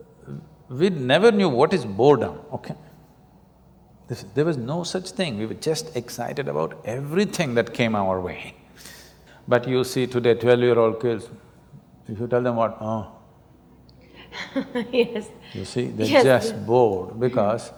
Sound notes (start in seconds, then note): 14.3 laughs